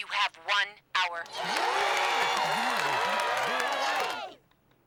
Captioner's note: cheering